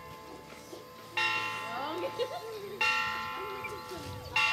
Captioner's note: bell tolls; people laugh, chatter